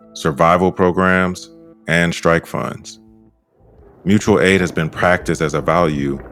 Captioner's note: none